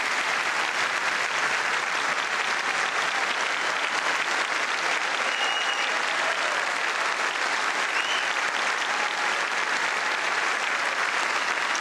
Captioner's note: applause